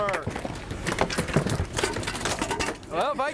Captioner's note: fish flops